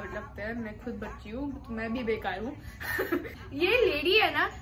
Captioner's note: laughter